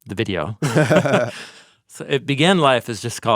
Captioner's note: both laughing